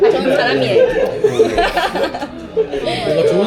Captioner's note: laughing out loud